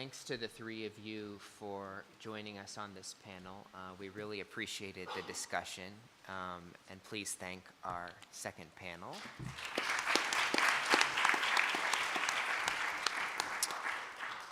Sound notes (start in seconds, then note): 9.2 applause